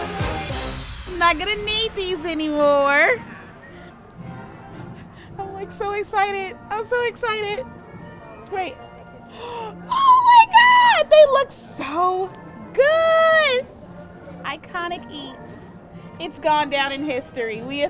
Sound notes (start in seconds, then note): 9.2 gasps